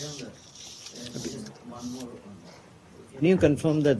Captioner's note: reporters chatter